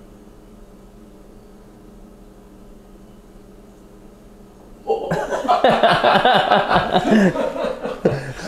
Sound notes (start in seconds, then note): 4.8 both laugh